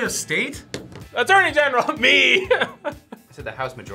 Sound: laughs

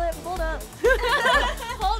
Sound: laugh

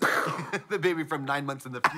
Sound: Trixie mimics an explosion

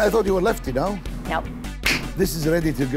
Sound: palms slap

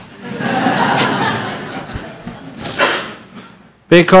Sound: laughter

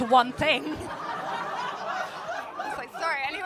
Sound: laughter

